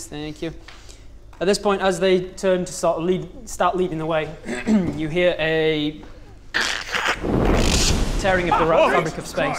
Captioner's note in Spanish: crrkkkshh